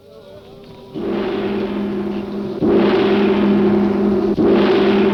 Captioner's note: gong crashing